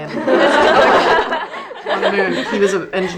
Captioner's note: group laughing